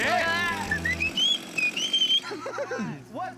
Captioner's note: whistles